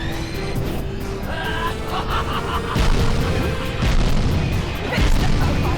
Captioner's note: gol laughs